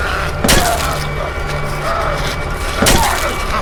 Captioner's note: zombie growling; stick thudding